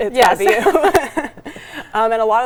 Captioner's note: both laughing